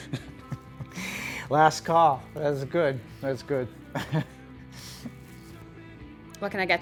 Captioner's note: laughs